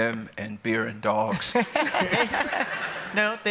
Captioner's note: laughter